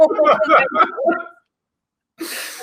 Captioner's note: laughs